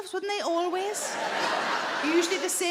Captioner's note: audience laughing